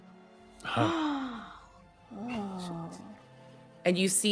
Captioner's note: gasps